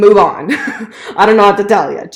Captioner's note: chuckling